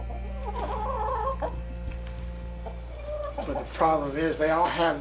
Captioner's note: chicken cooing